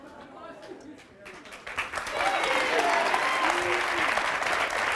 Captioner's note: audience clapping and cheering